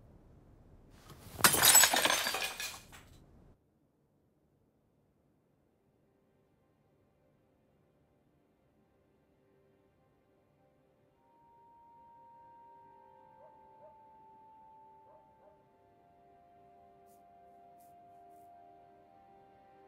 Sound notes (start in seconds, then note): 1.2 plate shatters; 7.9 gentle music